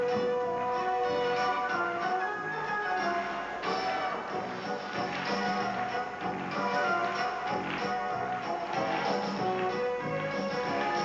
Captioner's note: applause